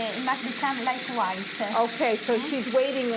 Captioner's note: speaking Italian